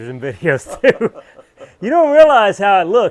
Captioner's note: laughing